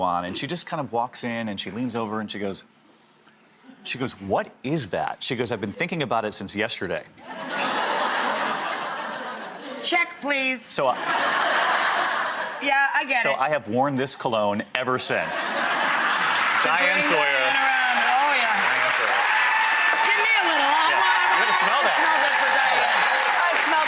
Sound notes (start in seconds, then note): 7.2 audience laughing; 15.5 audience clapping; 18.0 audience cheering